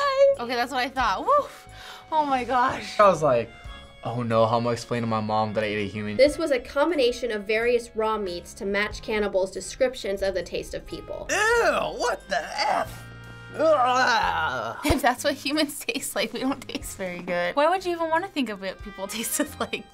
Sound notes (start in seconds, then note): 12.2 shaky groan